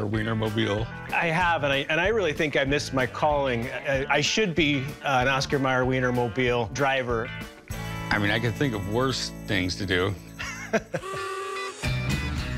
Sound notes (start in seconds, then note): 10.4 chuckles; 11.0 horn honks; 11.2 rockabilly music